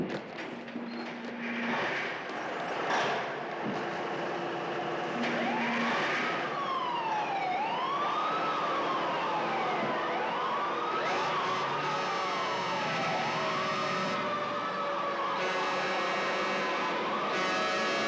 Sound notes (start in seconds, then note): 5.8 siren Wailing; 10.6 sirens Wailing; 13.7 horns Blowing